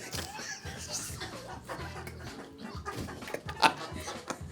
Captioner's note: Cedric laughs